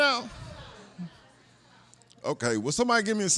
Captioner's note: audience members say "No"